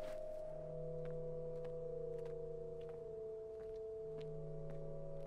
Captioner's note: footsteps pattering